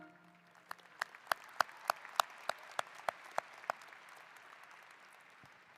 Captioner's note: applause